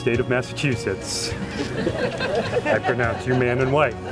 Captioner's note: congregation laughs